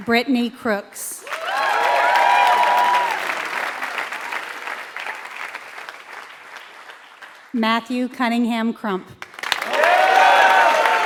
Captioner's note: applause; applause